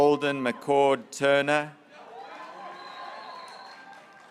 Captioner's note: graduates cheering